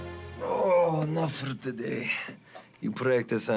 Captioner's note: Radovan groans